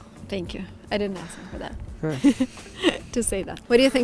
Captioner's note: giggling